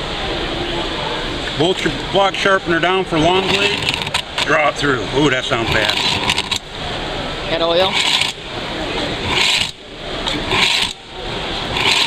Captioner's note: scratch